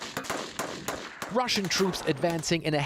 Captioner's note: voice- over